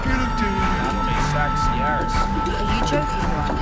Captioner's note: voiceover